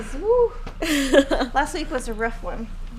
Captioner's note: laughing